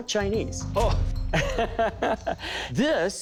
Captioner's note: laughs